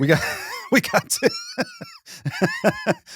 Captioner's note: laughing